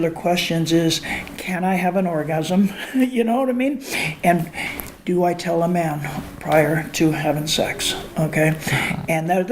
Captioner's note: laughs